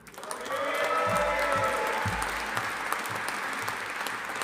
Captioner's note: audience applauding